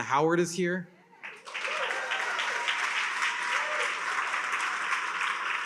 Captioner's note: attendees cheer and applaud